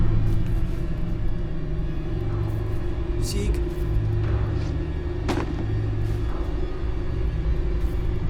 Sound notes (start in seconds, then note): 5.2 book thuds